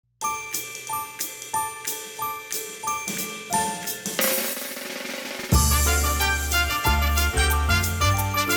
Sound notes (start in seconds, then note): 0.2 chiming; 4.1 drum roll; 5.8 jaunty music